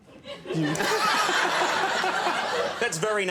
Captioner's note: all laughing